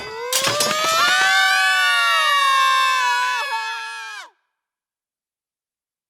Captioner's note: screaming; metal clanging